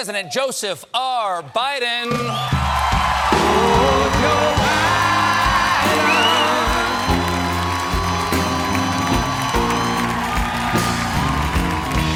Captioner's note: applause